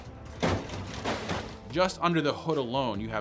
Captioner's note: car hood crashes; car hood pops open